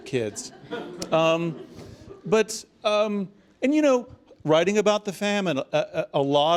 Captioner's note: laugh